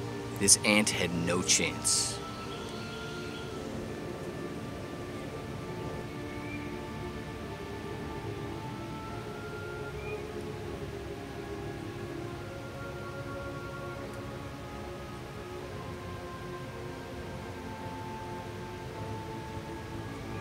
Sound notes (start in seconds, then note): 3.3 birds singing & chirping